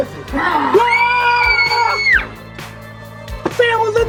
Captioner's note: scream